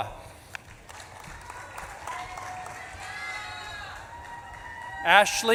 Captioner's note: audience claps and cheers